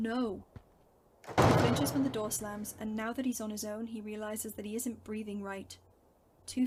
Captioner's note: door slams